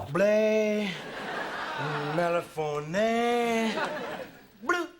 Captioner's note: man speaking gibberish